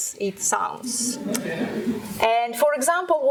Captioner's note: laughing